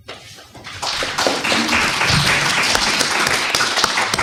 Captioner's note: audience Applauds